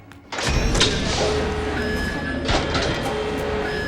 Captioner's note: alarm sounding; tense music continues